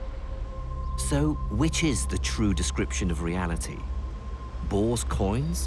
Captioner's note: voiceover